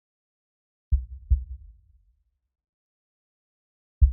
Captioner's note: heart beating